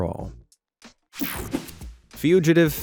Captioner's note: scene change whooshing